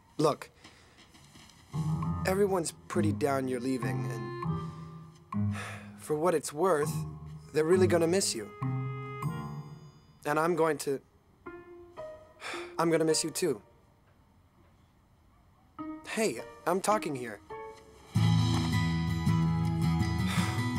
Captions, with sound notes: Look, everyone's pretty down you're leaving. And for what it's worth, they're really going to miss you. And I'm going to, (sighs) I'm going to miss you too. Hey, I'm talking here. (upbeat music)